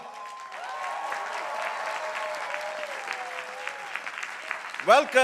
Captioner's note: crowd applauding